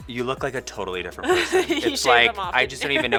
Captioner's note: laughs